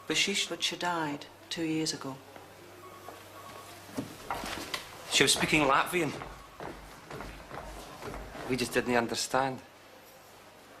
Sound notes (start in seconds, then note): none